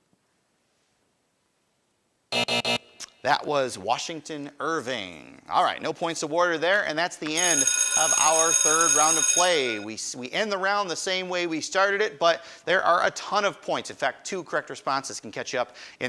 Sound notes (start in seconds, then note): 2.3 buzzer buzzing; 7.3 bell ringing